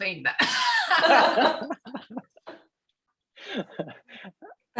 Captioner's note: everyone laughing